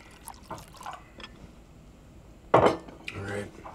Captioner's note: liquid pouring; glass thuds